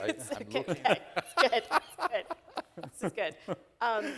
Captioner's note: laughing